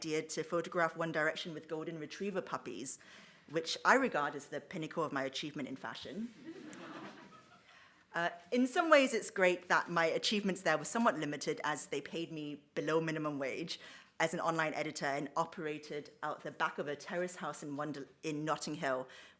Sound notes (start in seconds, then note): 6.5 audience laughs